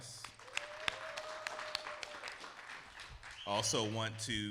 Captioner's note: clapping; audience applauding; audience cheering